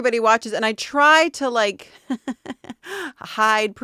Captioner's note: laughing